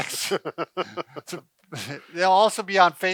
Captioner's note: laughs